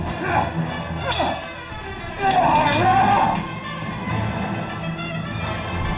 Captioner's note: grunting; metal clanking